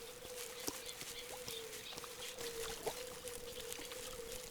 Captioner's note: birds singing